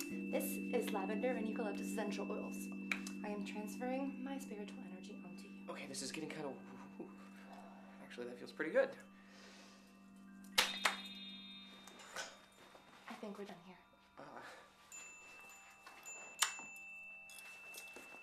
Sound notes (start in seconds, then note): 0.0 humming; 7.4 sighing; 10.2 chiming; 10.6 clapping; 11.2 rustling; 13.9 grunting; 14.7 chiming; 15.9 smacking